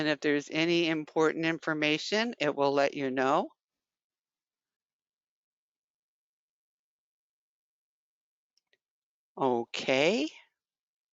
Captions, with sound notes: And if there's any important information it will let you know. [5 seconds pause] Okay.